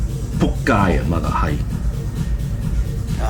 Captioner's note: Cantonese